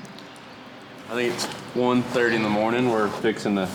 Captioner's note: horse on pavement